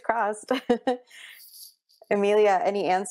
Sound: laughs

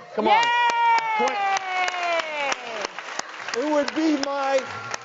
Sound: audience claps

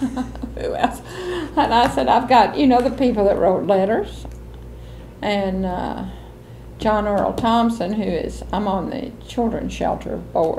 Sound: laughs

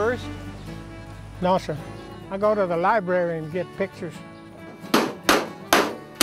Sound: pounding

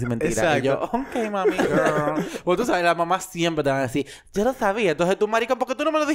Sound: laughs

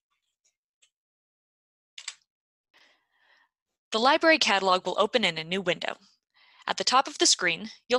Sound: typing

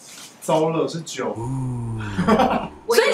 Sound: laughs

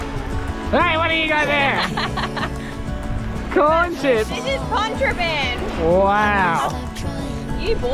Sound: laughs

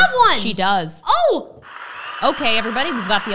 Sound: crowd applauding

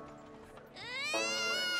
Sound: crying

